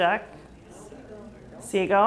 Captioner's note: murmurs from crowd